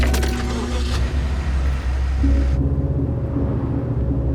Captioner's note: car engine roaring